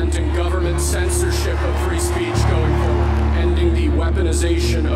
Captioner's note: crowd cheering